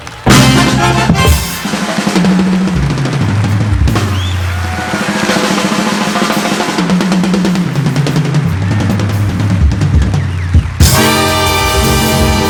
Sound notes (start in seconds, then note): 0.2 upbeat instrumental music continues; 3.7 audience applauding; 3.7 audience whistling